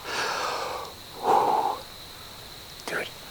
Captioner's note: exhales